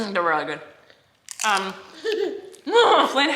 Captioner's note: laughing